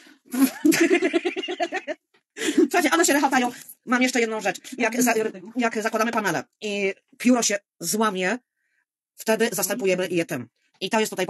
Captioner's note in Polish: śmiech